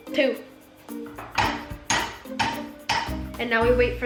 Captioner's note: continues the assault on pan with the spoon